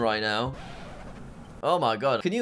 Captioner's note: record scratches